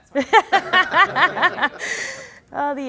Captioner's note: laughing